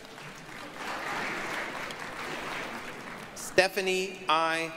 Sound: applause

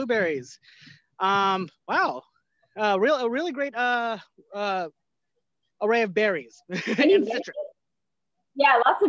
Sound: laughter

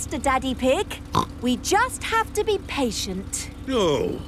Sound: snorts

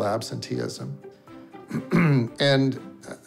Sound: clearing throat

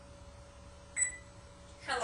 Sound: beep sound

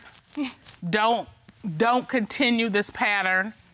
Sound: chuckles

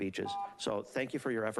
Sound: beeping

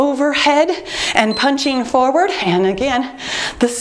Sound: timer beeps

